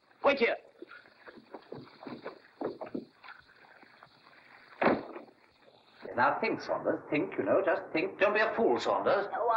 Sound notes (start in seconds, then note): 0.8 Logan's scurrying footsteps; 4.8 door closes